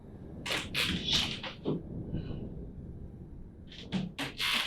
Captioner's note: floor creaking